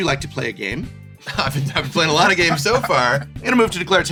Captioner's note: laughing